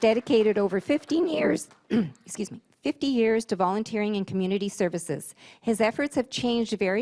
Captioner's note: applause; voice-over